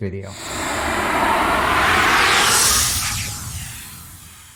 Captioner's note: loud swishing